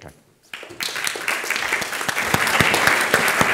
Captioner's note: applause